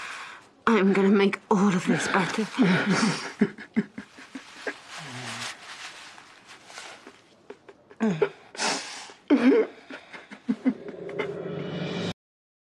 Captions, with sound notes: ...I am gonna make all of this better. *Aaron sobs* *Aaron continues to cry*